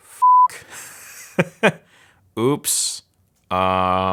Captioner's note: laughs